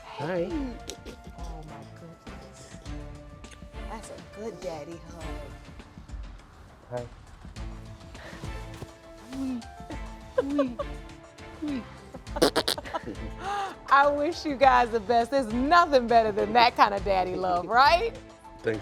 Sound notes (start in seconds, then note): 9.4 judge lake laughing; 12.4 blows raspberry